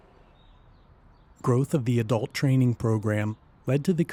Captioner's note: voiceover